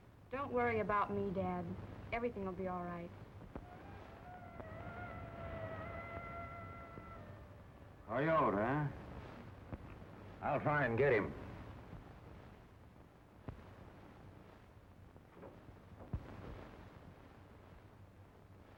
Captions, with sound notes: Don't worry about me, Dad. Everything will be all right. [howling] Coyote, huh? I'll try and get him.